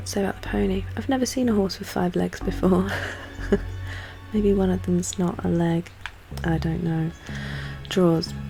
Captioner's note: laughs